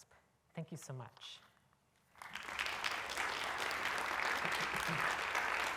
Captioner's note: applause